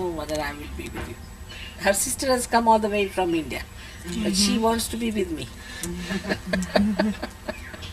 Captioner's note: shree mataji laughs